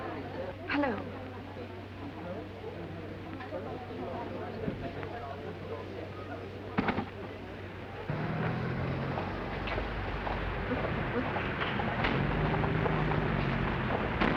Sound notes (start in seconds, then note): 2.0 people murmuring; 7.9 traffic humming